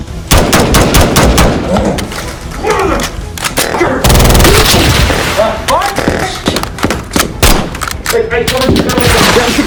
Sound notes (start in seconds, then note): 4.0 full auto gunfire; 4.8 blood splatters